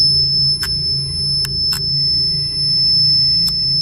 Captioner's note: REM pod beeping